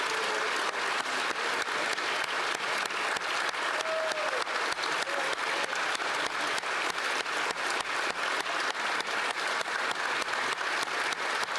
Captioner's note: applause